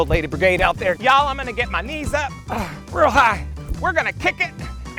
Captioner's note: grunts